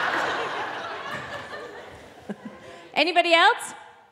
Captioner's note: audience laughing